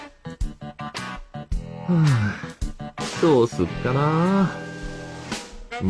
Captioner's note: sigh